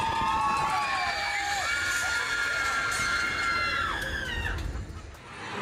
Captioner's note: guests scream